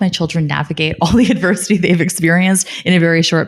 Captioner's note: laughing